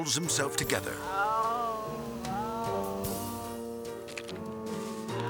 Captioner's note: groaning; gentle music continues